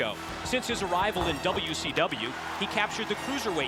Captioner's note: body thudding